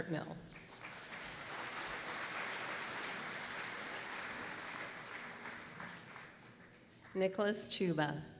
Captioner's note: applause